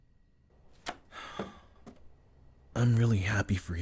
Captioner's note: sighs